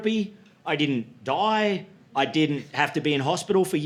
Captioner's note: none